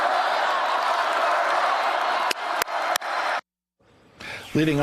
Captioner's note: cheers and applause